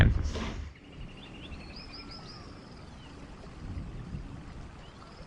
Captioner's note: birds chirping